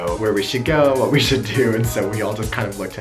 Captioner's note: laughs